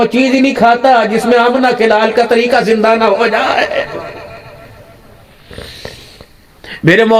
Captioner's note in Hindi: नाक से की जाने वाली आवाज़